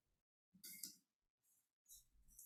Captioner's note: mouse clicks